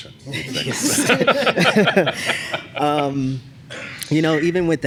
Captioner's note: laughter